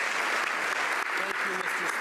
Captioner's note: applause